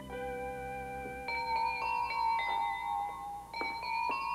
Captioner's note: doorbell plays